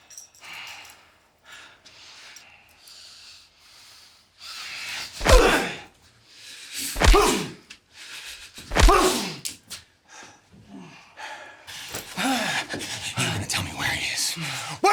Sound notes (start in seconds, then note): 5.2 punches thudding; 12.2 nazi groaning